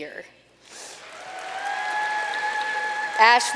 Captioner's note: audience cheering and applauding